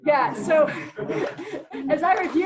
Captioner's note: chuckles